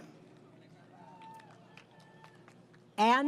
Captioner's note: applause